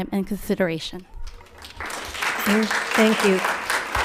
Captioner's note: applauds